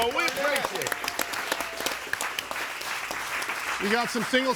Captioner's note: crowd applauding